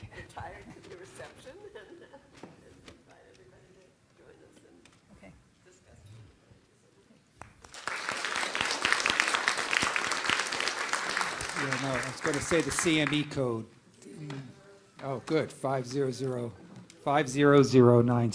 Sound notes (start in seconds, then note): 13.9 applause